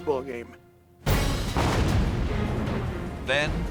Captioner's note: explosion